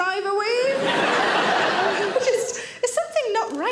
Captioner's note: audience laughs